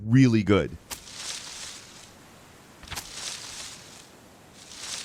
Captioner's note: cards shuffling